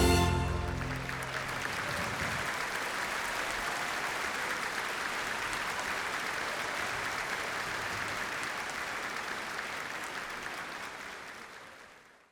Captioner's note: applause